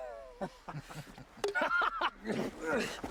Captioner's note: men laugh